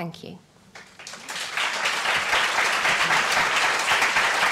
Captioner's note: applause